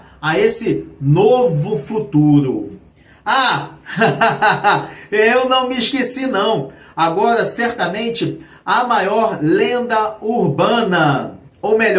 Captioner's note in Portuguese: risadas